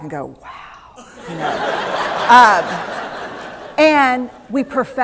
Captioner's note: laughter